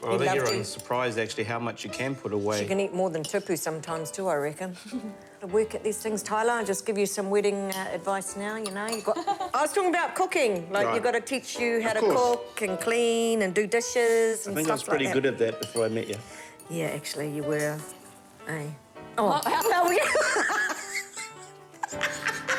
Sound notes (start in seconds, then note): 4.8 laughs; 12.9 giggles